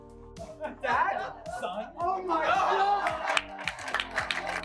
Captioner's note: laughter